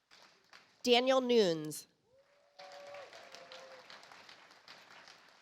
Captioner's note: audience applauds